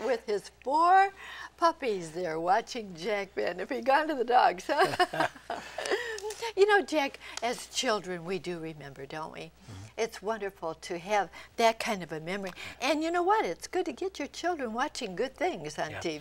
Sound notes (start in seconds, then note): 4.7 laughter